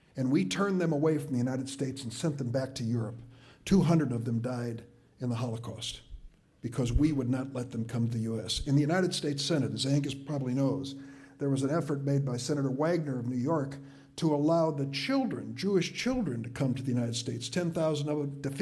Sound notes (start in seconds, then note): none